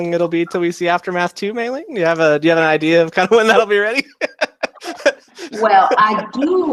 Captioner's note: laughs